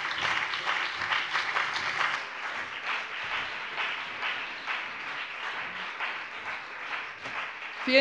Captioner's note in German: Beifall BÜNDNIS 90/DIE GRÜNEN und vereinzelt CDU